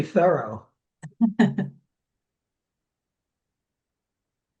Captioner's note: chuckling